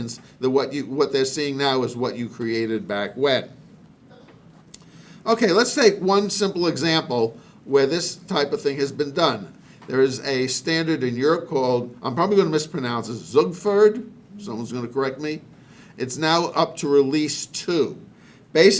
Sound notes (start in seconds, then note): 13.3 speaking in a foreign language